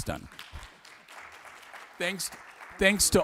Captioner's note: applause